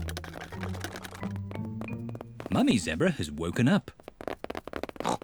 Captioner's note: pattering; oinks